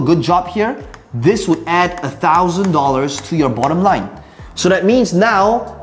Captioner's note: tapping marker